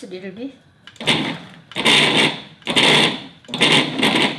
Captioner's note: blender whirring